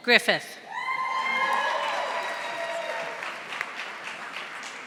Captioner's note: audience applauding